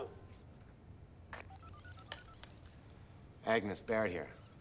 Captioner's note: cell phone dialing